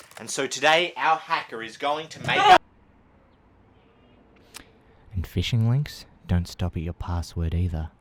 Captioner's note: screaming